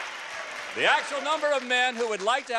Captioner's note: applause